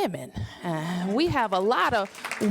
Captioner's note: applause